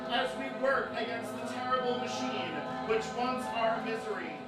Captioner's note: coven cheering